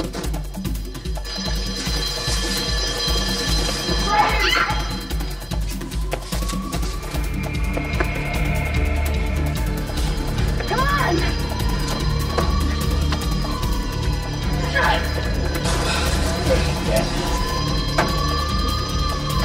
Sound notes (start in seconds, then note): 4.0 woman Screams; 12.6 grunts; 12.6 sirens Wailing